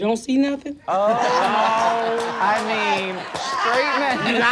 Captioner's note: audience laughs